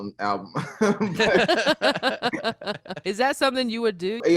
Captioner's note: all laughing